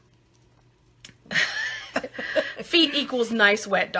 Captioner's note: laughing